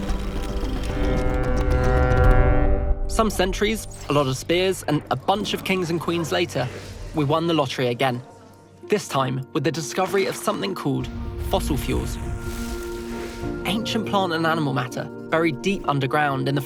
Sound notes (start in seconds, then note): 0.8 steamboat horn honking